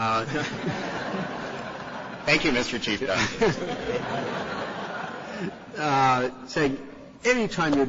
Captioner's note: laughter